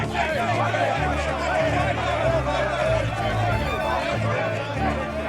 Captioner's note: men shouting